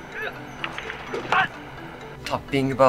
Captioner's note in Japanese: 頭を叩く音